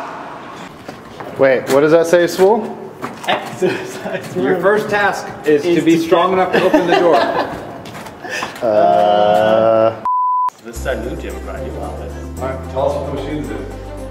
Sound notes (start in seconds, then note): 3.2 slightly laughing; 6.2 laughs